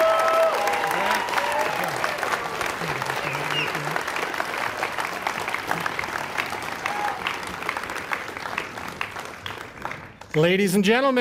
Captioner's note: cheering and applause